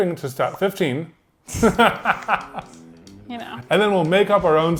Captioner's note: laughs